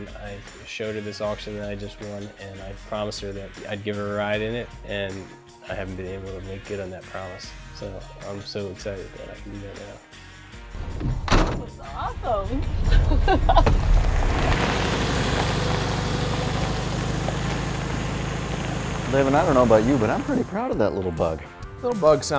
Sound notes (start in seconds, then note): 12.8 laughing